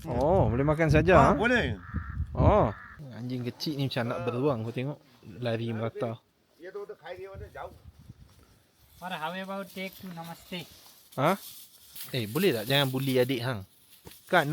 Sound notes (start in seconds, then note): 9.5 speaking Nepali